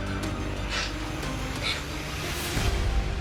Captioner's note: sniffling